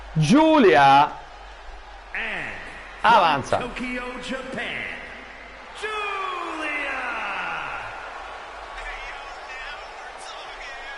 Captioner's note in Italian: Applauso